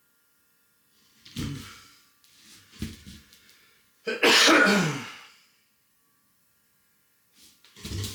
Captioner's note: coughing